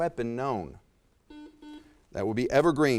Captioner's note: buzzer chiming